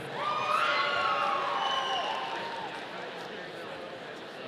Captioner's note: audience cheering